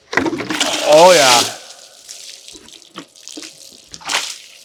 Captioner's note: water splashing